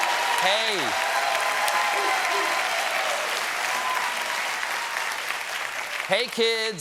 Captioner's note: applause